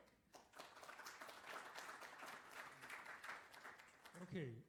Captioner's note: applause